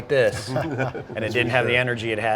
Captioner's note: men laughing lightly